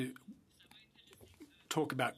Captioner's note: speaking French